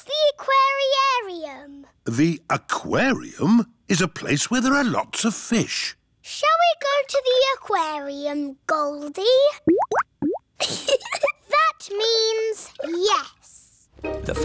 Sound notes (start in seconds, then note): 9.6 bubbling; 10.6 giggles